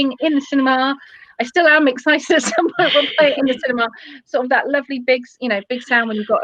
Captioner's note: laughter